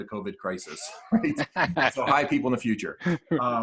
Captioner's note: man laughs